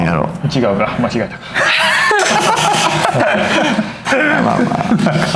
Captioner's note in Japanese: 笑い